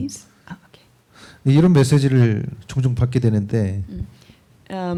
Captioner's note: speaking korean